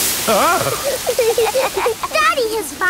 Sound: laughing

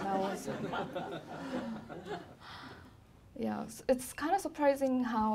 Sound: laughing

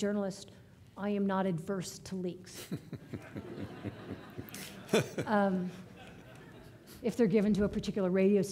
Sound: audience laughing

